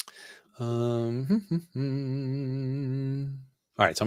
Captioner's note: humming